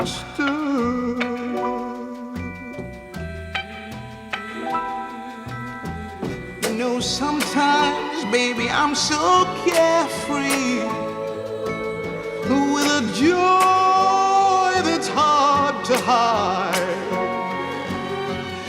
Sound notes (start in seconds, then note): none